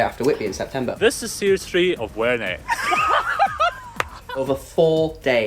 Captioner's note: laughter